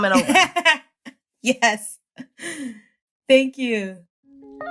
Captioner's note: laughing